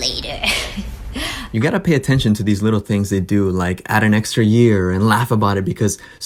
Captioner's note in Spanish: risas